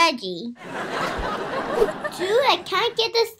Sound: audience laughing

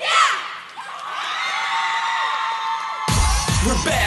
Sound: cheering

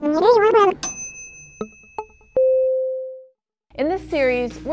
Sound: voice speaking backwards; chiming

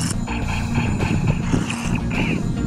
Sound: laser shots

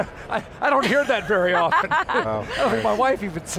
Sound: laughter

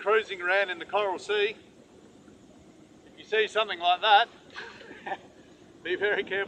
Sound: laughs

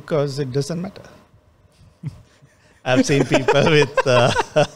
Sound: laughs; laughs

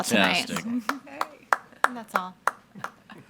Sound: attendee clapping

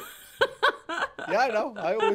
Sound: laughing

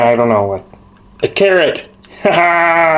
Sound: laughs

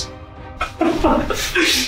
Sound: laughs

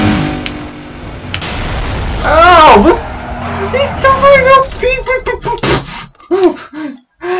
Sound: shrieking gibberish

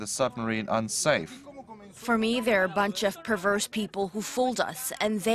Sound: Spanish

